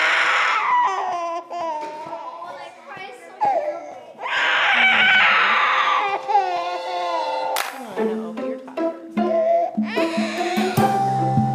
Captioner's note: baby crying very intensely